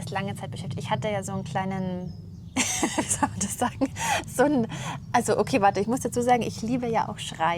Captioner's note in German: gelächter